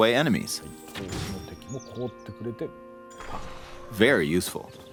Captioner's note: birds chirping